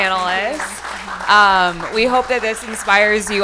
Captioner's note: people clapping